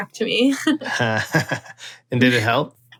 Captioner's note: laughter